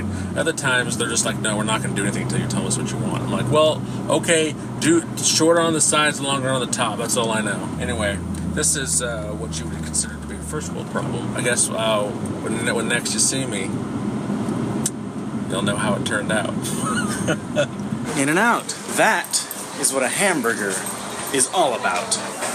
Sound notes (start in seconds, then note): 16.6 laughs